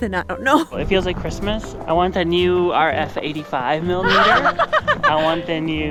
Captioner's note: laughs